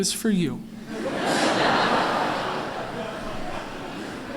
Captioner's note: laughter